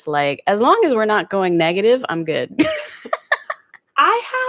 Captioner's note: laughs